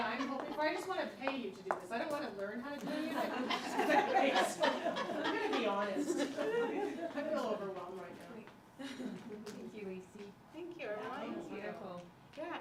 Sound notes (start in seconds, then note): 2.8 laughter